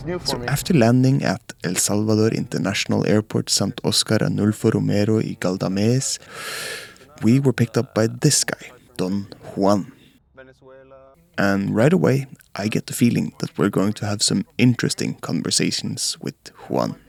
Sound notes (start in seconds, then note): 6.2 inhale